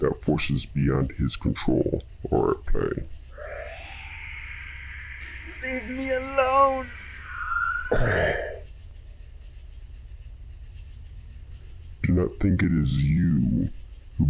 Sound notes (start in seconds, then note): 3.3 painful screeching sounds; 7.9 groans in pain; 8.9 screeching stops